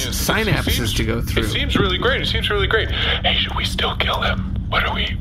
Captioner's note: hushed